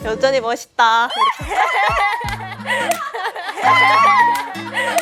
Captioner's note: squeals